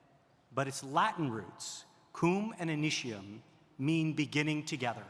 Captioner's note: speaking in Latin